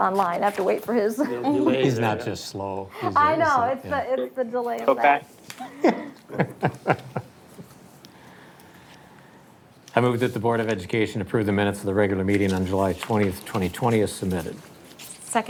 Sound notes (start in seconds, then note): 5.6 laughing